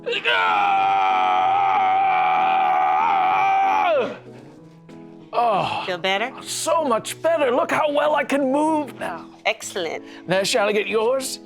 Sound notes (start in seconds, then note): none